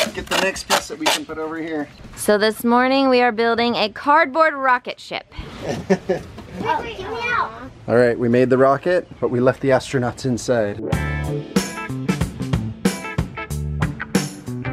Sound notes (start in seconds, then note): 5.4 laughs; 10.6 funky music